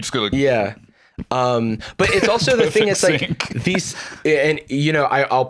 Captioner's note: laughing